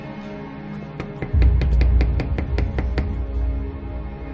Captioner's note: door knocking